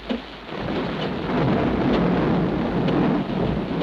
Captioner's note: thunder cracks